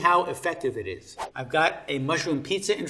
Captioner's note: air whooshing